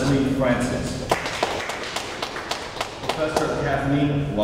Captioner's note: audience applauds